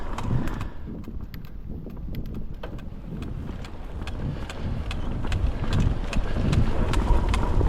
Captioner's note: clicking sounds